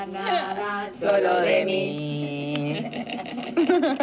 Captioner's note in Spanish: risas